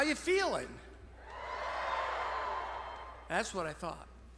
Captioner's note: graduates cheering